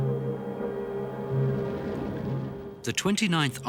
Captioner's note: explosions booming